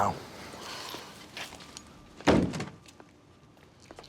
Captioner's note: sighs